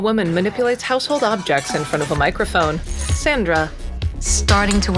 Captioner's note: cheerful clanging